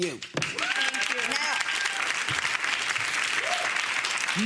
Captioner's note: audience applauds